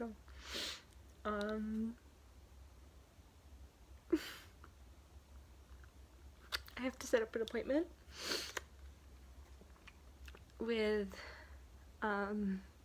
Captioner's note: sighs; inhales